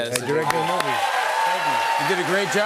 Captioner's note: cheers and applause